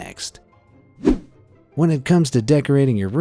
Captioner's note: image whooshing